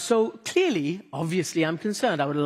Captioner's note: none